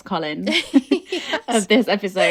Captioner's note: laughing